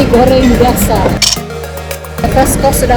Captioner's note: camera click